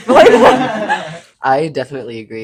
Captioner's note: laughing